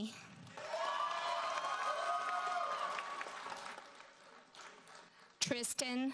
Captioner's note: audience cheers and applauds